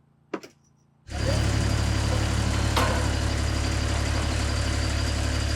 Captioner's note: machine thrumming